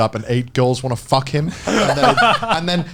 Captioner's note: all laughing; chuckles